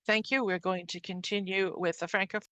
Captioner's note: speaking French